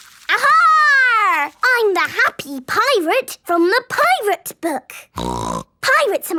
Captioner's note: snorting